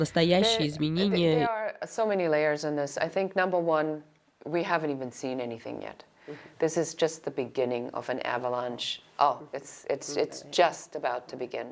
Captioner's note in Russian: Разговаривают на английском